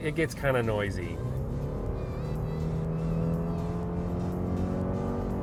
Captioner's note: car engine revving